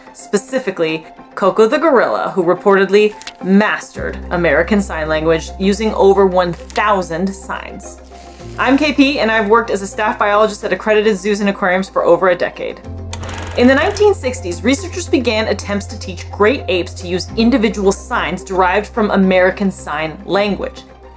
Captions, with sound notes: Specifically, Koko the Gorilla, who reportedly mastered American Sign Language using over 1,000 signs. I'm KP and I've worked as a staff biologist at accredited zoos and aquariums for over a decade. (film rolling sound effect) In the 1960s, researchers began attempts to teach great apes to use individual signs derived from American Sign Language.